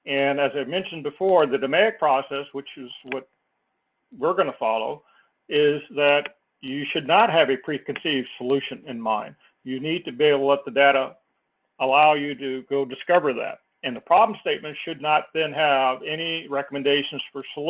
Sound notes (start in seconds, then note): none